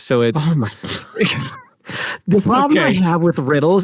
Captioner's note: both laugh